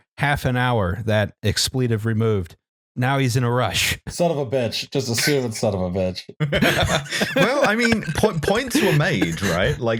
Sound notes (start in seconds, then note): 6.4 laughter